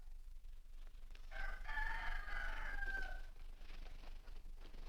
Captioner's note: rooster Crows